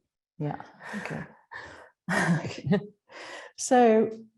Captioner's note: laughs